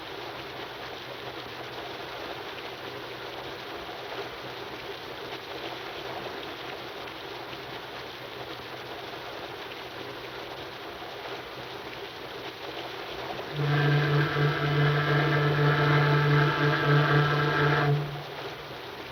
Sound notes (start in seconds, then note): 13.3 horn blows